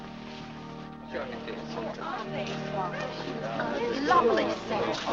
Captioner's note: parishioners chatting